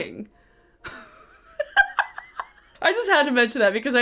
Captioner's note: laughs